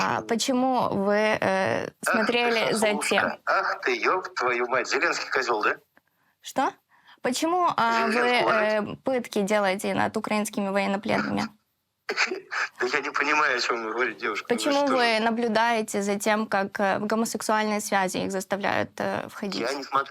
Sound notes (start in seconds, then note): 12.1 laughing